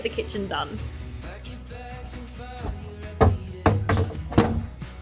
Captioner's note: wood thudding